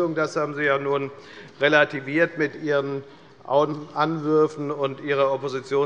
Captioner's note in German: none